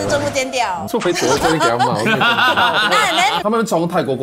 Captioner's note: laughs